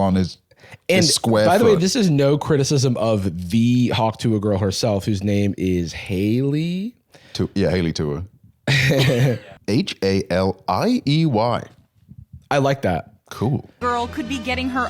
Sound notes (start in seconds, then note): 8.7 laughs